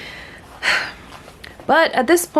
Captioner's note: short sigh